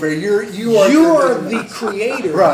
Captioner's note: laughter